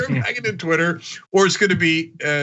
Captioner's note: laugh